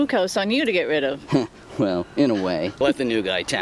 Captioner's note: chuckles